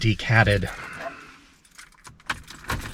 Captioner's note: engine starting sound